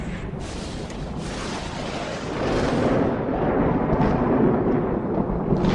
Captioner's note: thunder rumbling